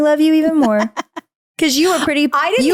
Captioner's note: laughing